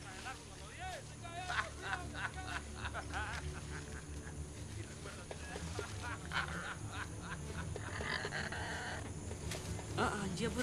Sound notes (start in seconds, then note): 1.3 man laughs; 7.8 bird squawks